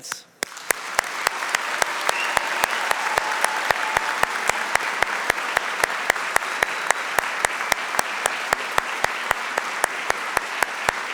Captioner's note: applause